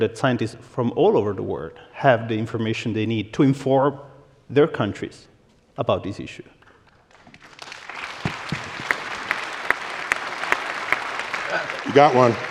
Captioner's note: applause